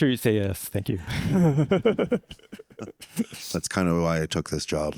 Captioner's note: all laugh